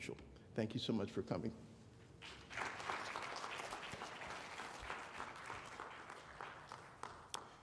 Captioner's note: applause